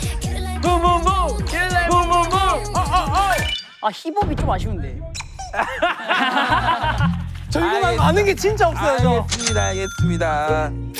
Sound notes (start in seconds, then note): 5.4 laughing